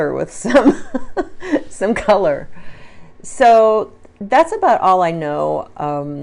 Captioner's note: laughs